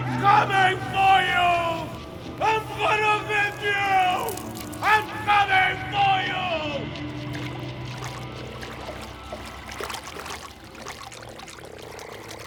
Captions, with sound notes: I'm coming for you! I'm gonna get you! I'm coming for you! (water splashing)